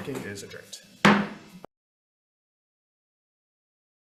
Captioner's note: gavel bangs